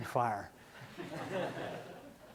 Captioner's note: laughing